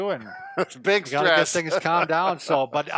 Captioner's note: laughs